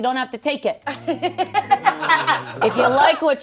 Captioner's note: laughing